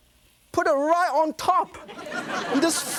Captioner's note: laughter